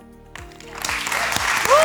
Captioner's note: applause